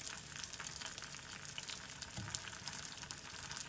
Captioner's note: weak fire